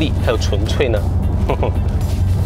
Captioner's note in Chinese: 老人式沉笑